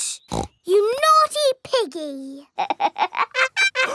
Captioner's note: snorts; laughs